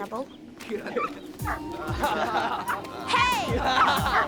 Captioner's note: guys laughing